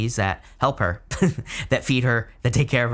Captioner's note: chuckles